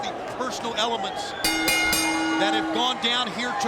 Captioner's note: bell rings